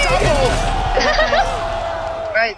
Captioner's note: chuckles